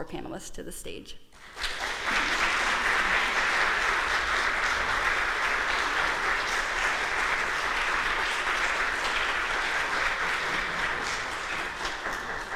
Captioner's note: applause